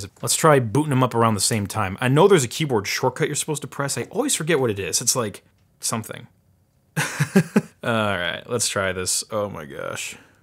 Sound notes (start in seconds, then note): 7.0 chuckles